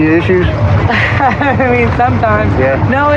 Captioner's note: lauaughghs